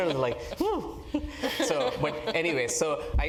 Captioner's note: laugh